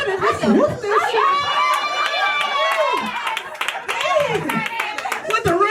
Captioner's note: audience cheering